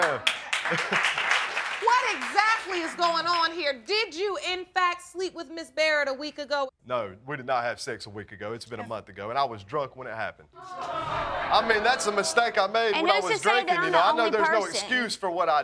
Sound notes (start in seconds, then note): 0.0 audience clapping; 10.6 audience exclaiming